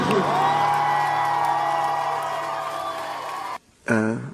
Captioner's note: cheering